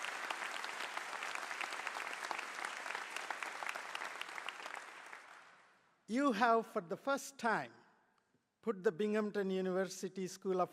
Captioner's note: applause